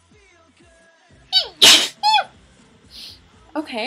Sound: sneeze

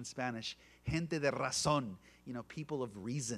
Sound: speaking Spanish

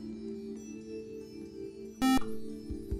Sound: buzzer

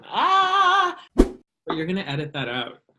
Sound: whoosh

